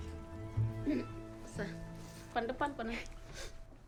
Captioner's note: non-english speech